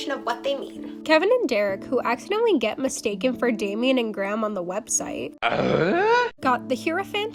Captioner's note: eughhh